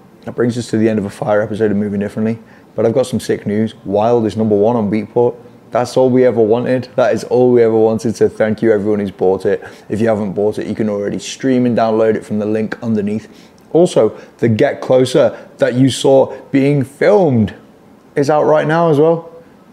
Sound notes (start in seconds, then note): none